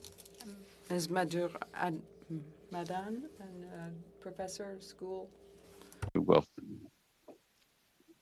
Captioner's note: speaking French